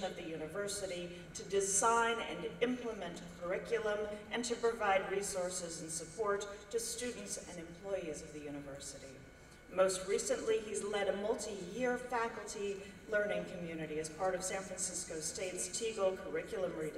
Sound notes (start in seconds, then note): none